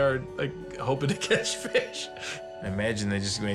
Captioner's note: laughs